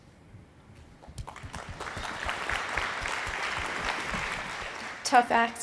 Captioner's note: audience applauding